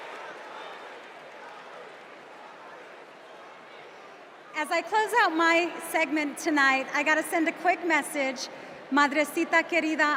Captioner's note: cheers and applause